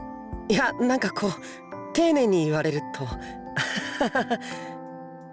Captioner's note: awkward laugh